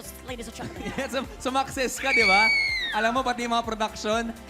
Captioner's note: screams